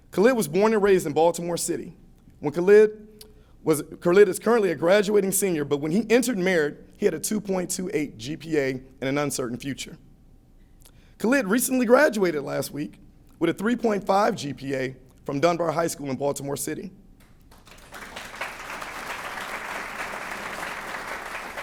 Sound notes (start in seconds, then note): 17.3 applause